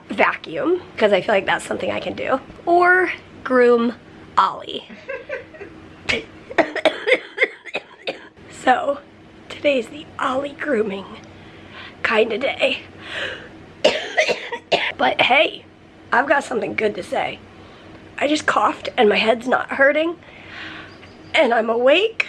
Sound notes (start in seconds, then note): 4.9 chuckling; 6.0 coughing; 13.8 coughing